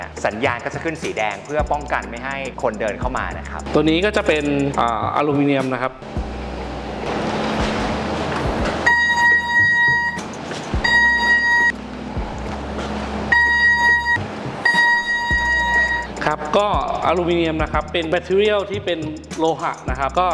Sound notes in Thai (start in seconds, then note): 7.1 เสียงเครื่องตรวจจับโลหะดังขึ้นระหว่างการทดสอบ